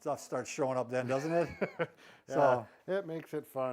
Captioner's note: laughs